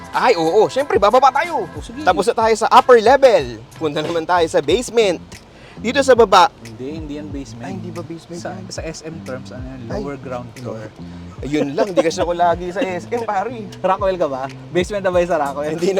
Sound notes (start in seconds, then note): 11.4 laughs